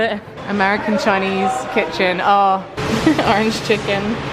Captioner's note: laughs